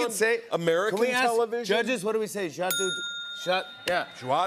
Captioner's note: ding!